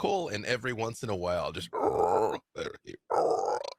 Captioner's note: croaks